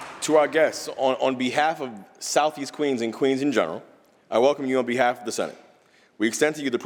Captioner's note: applause